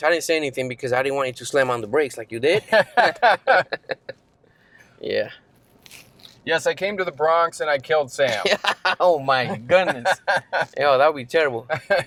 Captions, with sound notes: I didn't say anything because I didn't want it to slam on the brakes like you did. (laughter) - Yeah. - Yes, I came to the Bronx and I killed Sam. (laughs) - Oh my goodness know, that'd be terrible.